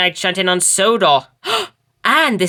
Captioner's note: David Gasps